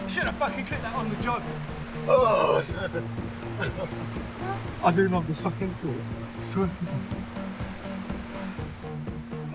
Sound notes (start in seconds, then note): 2.0 grunting